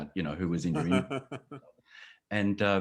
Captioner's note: laughing